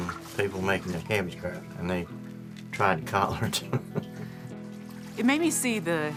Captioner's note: laughs